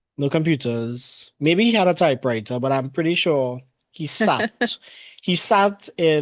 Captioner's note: laughs